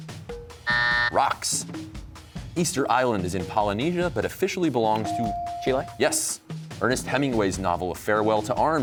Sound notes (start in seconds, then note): 0.6 buzzer